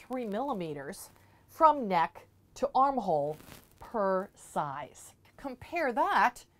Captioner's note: mic static